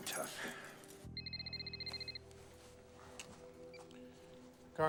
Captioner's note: cell phone rings